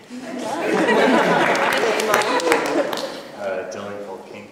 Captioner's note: laughter